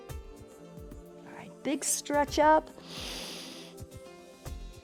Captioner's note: inhales